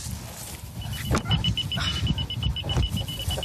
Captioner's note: beeping